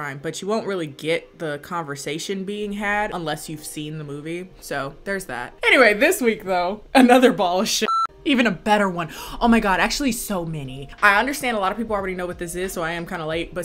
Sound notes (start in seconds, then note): 7.8 beep